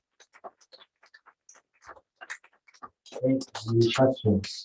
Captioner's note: applause